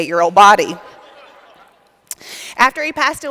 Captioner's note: laughter